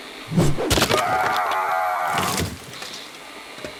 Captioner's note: screaming